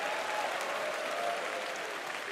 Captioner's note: cheers and applause